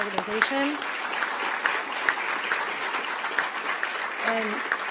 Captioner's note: applause